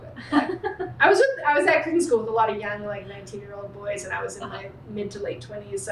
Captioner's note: laughter